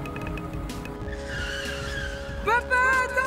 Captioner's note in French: freinage brusque